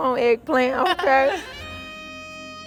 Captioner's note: laughs